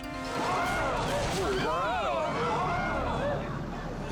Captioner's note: people exclaiming